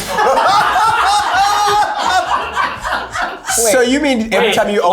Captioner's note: everyone laughing